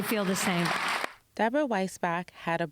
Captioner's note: applause